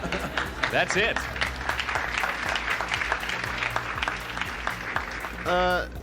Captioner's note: audience applauding